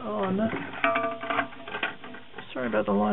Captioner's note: plastic hitting ceramic